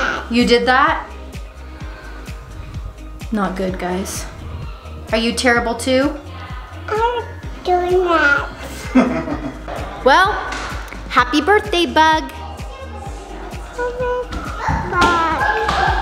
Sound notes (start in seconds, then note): 8.8 laughs